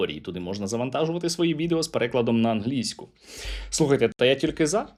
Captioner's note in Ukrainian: сопіння